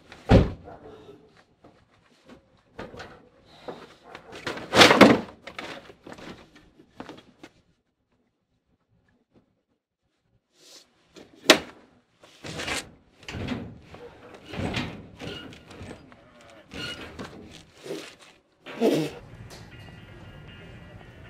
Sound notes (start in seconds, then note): 0.1 car door slam; 15.8 grunts; 18.7 spits